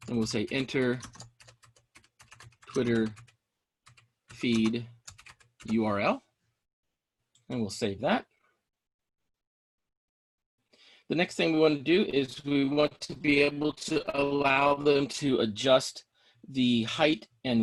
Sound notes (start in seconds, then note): 0.9 keyboard clicking